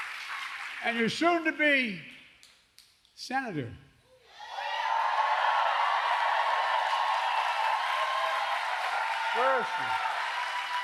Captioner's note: applause; applause